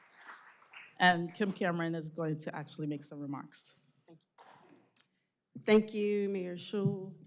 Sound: applause

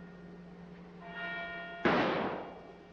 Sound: gunshot

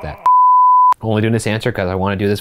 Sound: beep

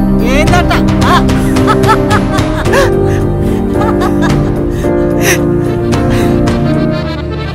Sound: both laugh out loud

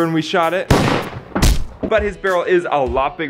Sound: gunshot and thud

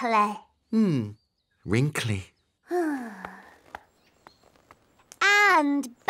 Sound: sighs

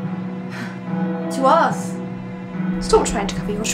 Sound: sighs

